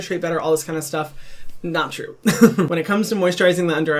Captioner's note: laughing